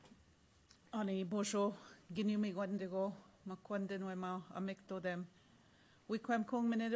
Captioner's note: speaking in Indigenous language